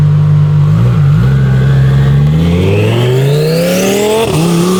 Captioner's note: car engine roaring